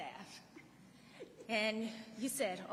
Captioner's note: laughing